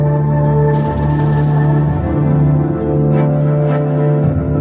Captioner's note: guns firing